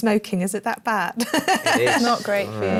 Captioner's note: laughs